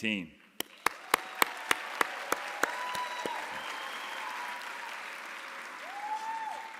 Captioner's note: audience applauding; audience cheering